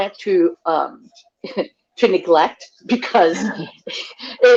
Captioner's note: laughs